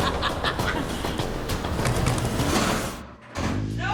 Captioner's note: laughs